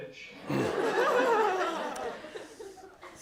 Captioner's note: laughter